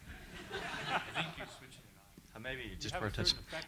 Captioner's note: laughter